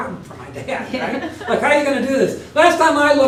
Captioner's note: laugh